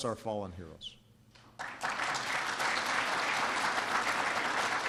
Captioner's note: applause